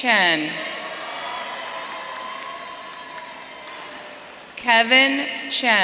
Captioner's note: audience cheering